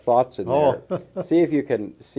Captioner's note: chuckles